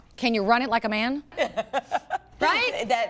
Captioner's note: laughter